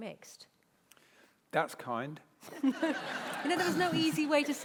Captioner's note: laughter